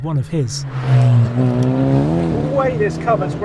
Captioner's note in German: Motor heult auf